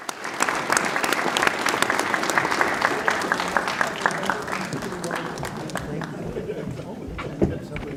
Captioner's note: applause